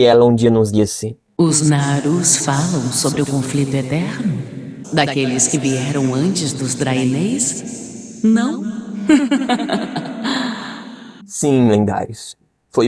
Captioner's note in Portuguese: risos